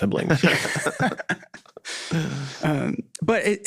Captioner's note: all laughing